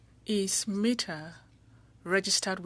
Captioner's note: speaking French